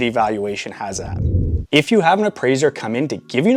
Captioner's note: air whooshing